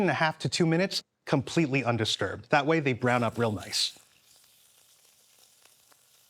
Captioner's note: pan sizzling